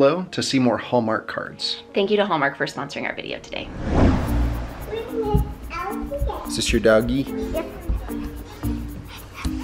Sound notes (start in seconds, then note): 5.9 babbles